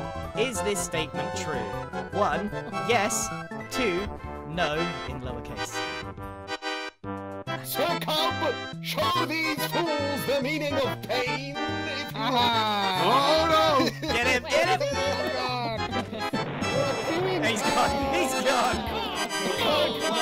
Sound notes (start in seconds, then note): 16.6 crowd